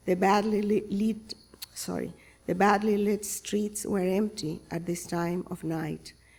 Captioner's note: none